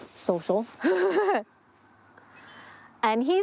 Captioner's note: laughing